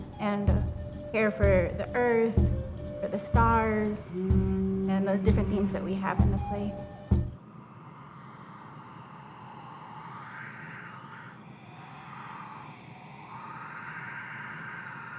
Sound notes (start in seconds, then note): 7.8 wind blowing